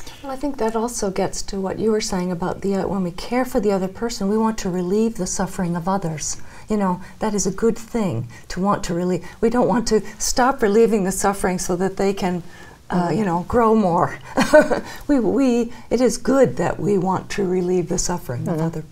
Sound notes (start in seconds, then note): 14.4 chuckles